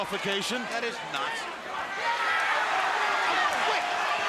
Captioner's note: crowd cheering